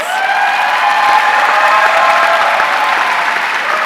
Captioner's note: audience cheering